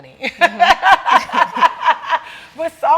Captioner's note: laughing